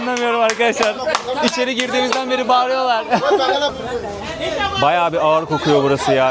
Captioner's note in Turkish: alkış; coşkulu tezahürat